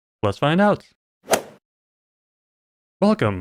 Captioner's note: golf ball hit sound